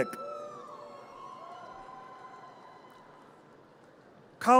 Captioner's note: audience cheers